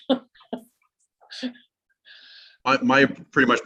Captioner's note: laughs